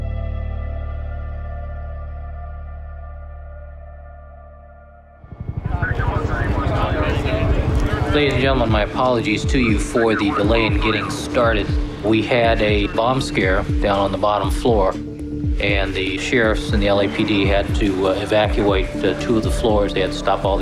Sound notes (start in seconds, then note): 7.3 music fades out; 11.4 muffled chatter